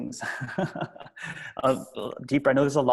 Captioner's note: laughs